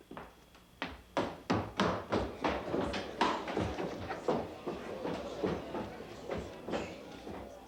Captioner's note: crowd murmuring; footsteps clomping